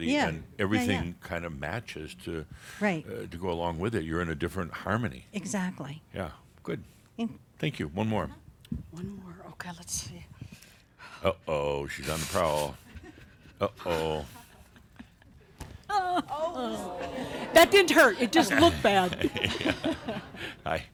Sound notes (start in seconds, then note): 15.9 giggling; 19.8 she giggles